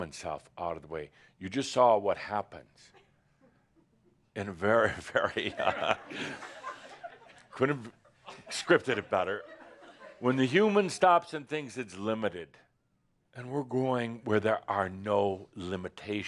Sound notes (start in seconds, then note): 4.8 laughter